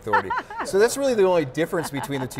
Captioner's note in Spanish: Risas